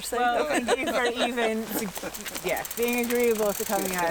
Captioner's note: laughing